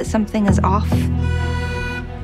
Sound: honking

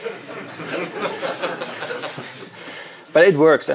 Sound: audience laughing

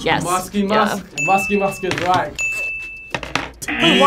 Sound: bell rings; buzzer

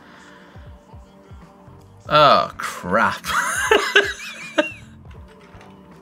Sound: laughs

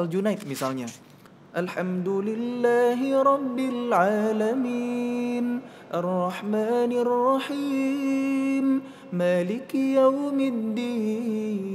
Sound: recites quran

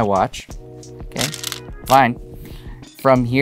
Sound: stones rattling

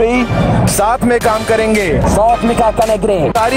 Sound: non-english speech

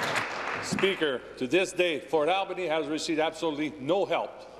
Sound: applause

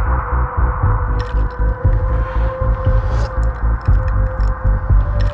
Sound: ice cubes clinking

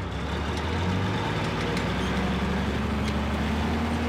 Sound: vehicle noises

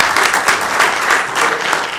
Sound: applause

